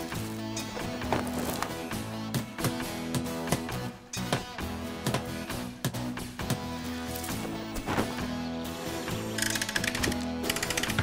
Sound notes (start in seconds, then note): 2.5 tapping; 9.3 crane Clicking